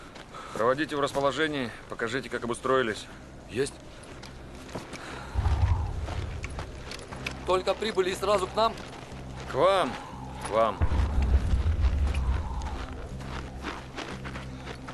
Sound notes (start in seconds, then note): 5.3 sound of wind; 5.3 steps crunching on snow; 10.7 sound of wind; 13.1 steps crunching on snow